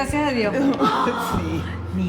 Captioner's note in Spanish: laugh